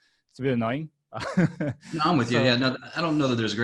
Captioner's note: laughing